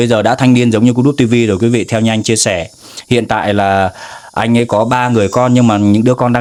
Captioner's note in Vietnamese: khịt mũi